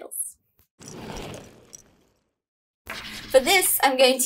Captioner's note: roller skates passing